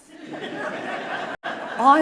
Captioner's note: audience laughing